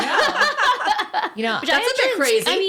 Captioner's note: laughing